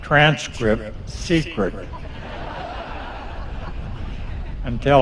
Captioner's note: laughter